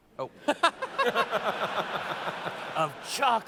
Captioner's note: laughter